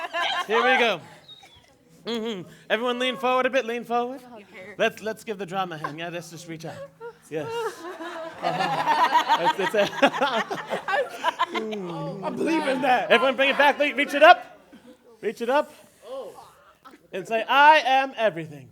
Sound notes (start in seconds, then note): 8.3 laughter and chatter